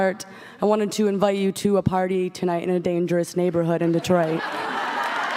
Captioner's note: audience cheers and claps